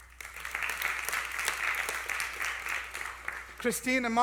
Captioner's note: applause